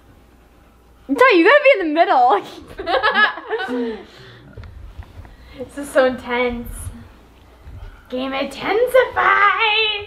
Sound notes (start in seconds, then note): 2.4 laughs